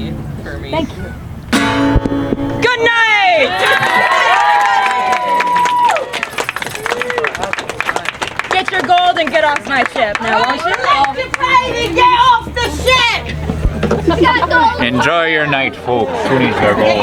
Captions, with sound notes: - Thank you. (guitar strumming) Good night! (audience cheering) Get your gold and get off my ship now, won't you? (people chattering)